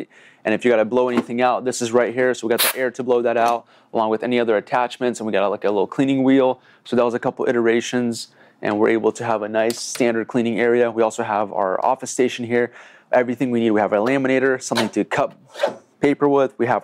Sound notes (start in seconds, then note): 2.8 air blowing